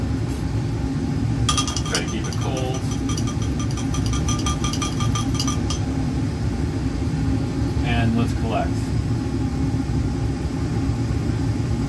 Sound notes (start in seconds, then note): 1.5 glass clinking